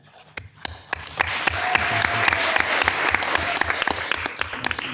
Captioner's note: people applauding